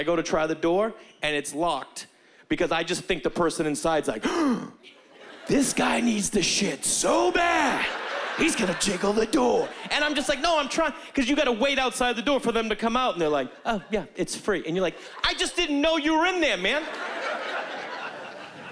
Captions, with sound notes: and I go to try the door and it's locked. Because I just think the person inside's, like... (gasps) This guy needs to shit so bad, he's gonna jiggle the door. And I'm just like, no, I'm trying-- 'Cause you gotta wait outside the door for them to come out and they're like, "Oh, yeah, it's free." And you're like, "I just didn't know you were in there, man."